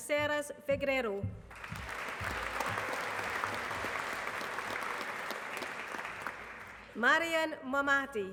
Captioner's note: applause